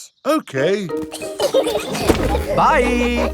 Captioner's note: laughing